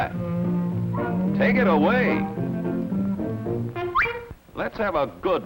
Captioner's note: whistle